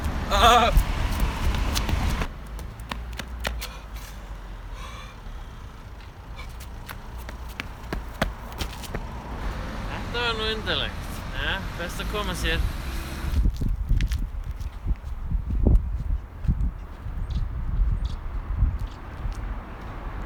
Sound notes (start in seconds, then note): 3.5 panting